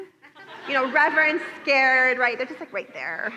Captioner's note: laughter